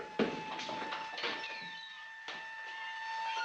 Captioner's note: siren blaring